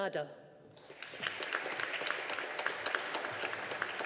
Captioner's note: audience applauding